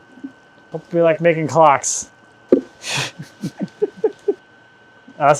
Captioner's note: laughs